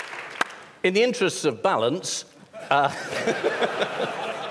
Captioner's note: laughter